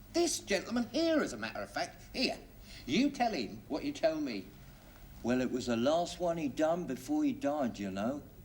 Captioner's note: none